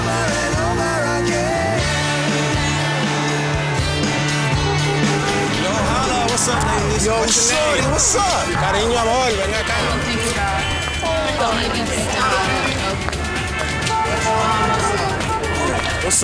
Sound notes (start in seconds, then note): 4.9 car honking; 8.9 speaking foreign language; 14.2 cars honking